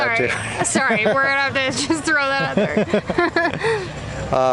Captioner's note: laughter